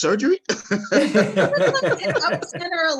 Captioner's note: panelists laughing